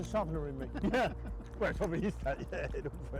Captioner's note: laughing